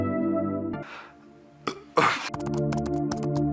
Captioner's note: burps